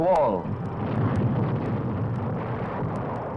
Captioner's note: bombs exploding